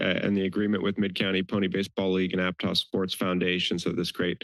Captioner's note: background chatter